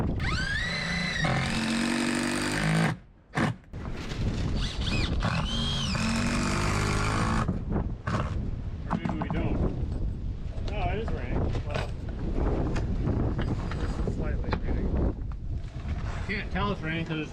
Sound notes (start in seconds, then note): 0.0 drill grinding; 0.1 drill whirring; 4.5 drill grinding; 4.5 drill whirring; 15.2 wind gusting